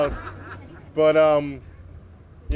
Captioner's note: laughter